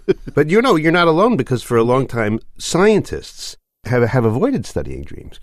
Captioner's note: laughs